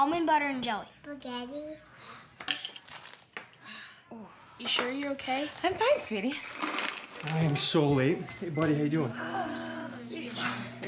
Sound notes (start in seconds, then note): 5.6 phone ringing